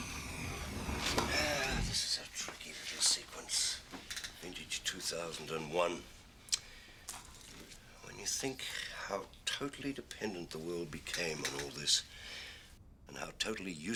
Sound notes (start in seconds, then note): 0.6 sigh